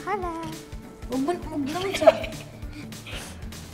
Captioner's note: laughs